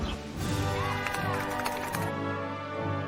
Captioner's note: applauding; band playing